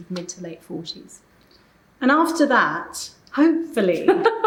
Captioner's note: laughing